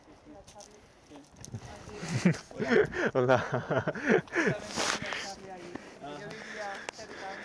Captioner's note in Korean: 멋쩍은 웃음과 멋쩍은 인사